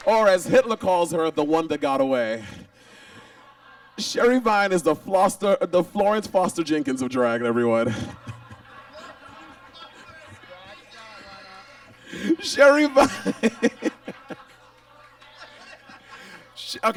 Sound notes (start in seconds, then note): 8.4 audience laughs; 14.0 Monet laughs; 15.6 audience laughs